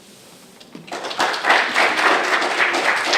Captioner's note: applause